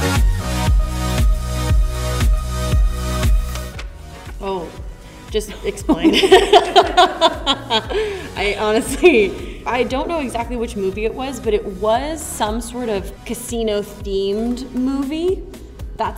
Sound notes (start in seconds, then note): 0.2 upbeat music; 6.0 laughs